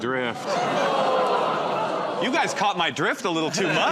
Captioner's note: audience groans